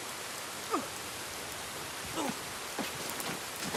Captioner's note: man grunting